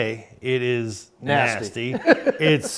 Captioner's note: laughs